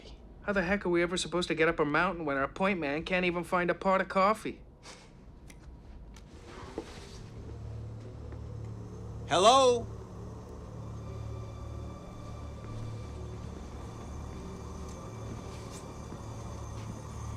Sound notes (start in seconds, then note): 4.6 chuckles; 7.2 suspenseful music playing